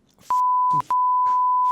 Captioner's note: beep